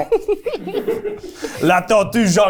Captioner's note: laughing